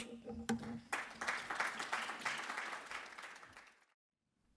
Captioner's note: audience clapping